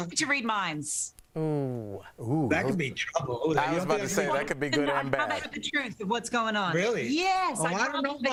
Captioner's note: laughter